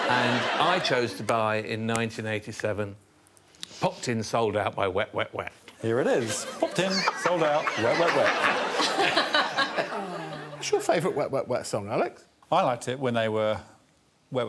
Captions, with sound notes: And I chose to buy, in 1987, "Popped in, Souled Out" by Wet Wet Wet. Here it is. "Popped in, Souled Out" by Wet Wet Wet. [all laughing] -[Desiree laughing] -Aw. What's your favourite Wet Wet Wet song, Alex? I liked it when they were Wet Wet Wet Wet Wet Wet.